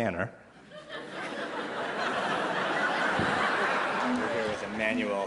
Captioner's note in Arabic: ضحك